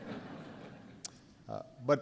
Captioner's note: laughter